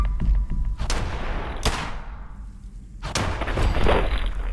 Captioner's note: gunshots firing; loud thump